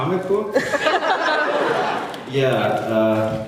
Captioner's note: laughs